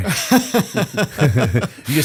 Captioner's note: laughter